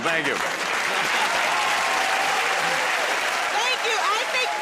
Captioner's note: cheers and applause